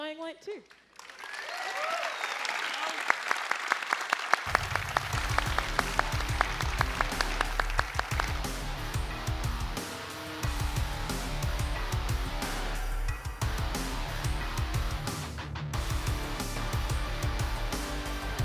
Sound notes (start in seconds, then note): 6.7 applause